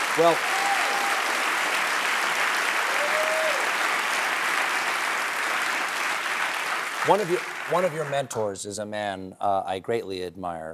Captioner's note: applause